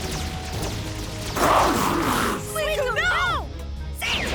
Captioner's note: Suicune snarling